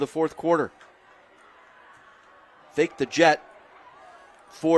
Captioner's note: applause